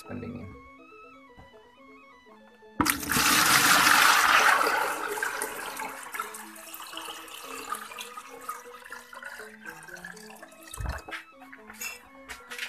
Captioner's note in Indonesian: suara air